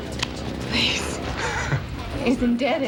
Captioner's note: chuckles